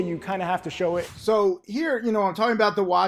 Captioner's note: air whooshes